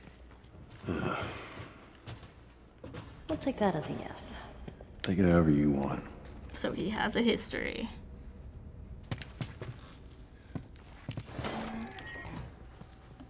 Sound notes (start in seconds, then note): 0.8 Joel sighs